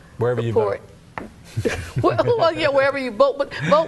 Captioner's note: all laugh